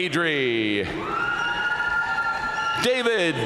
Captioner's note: audience cheering and applauding